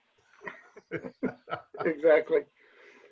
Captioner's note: laughs